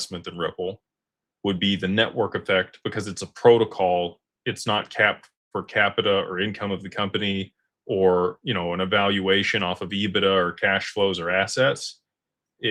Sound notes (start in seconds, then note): none